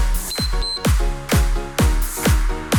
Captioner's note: timer beeps; cheerful music